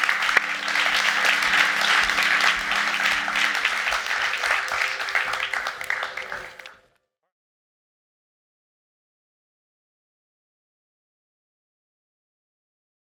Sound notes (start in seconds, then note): 0.0 audience clapping